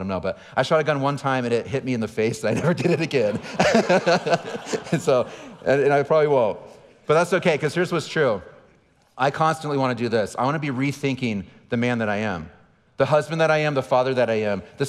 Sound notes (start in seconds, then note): 2.5 laughing; 2.5 audience laughing